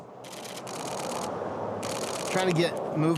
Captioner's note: camera clicking